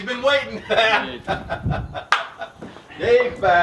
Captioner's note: laughter